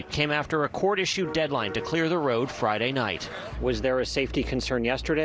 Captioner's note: horns